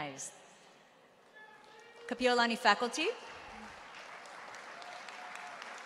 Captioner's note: applause